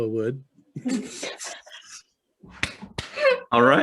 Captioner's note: both laugh